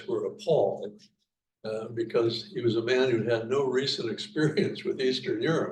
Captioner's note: chuckles